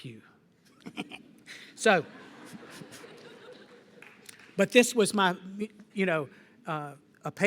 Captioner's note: laughter